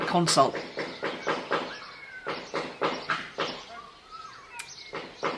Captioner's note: banging drowns out speaker